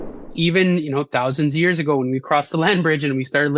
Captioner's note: graphics whooshing